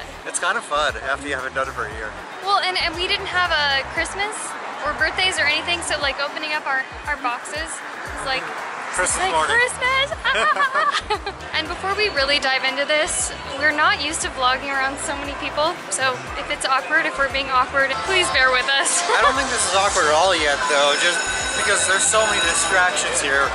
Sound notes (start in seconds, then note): 10.1 laughter